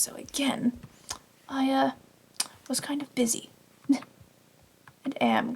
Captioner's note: laughs